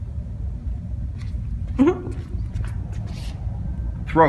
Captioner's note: female chuckles